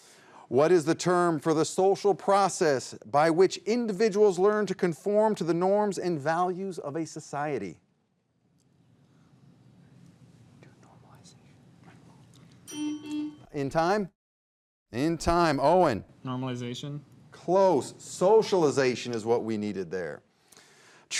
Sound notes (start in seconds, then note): 12.6 bell dings; 12.7 buzzer buzzes